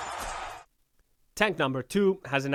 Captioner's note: crowd and announcers symphatetically screaming; crowd cheering